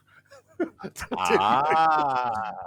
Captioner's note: laughter